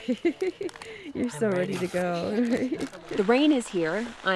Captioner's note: laughs